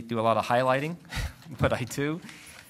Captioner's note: laugh